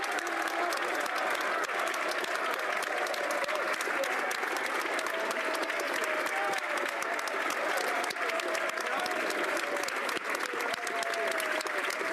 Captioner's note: applause